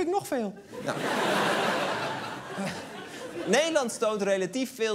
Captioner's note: laughter